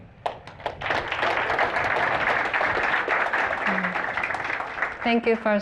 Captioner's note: applause